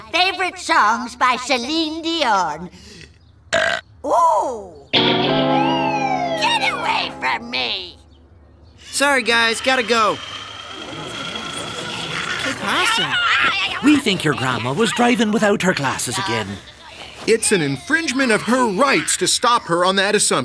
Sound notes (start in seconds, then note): 3.5 belching; 5.2 sirens wailing